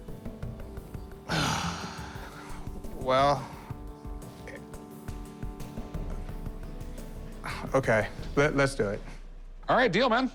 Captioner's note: sighs loudly